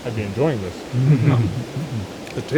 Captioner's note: all laugh